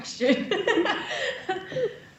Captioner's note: laughs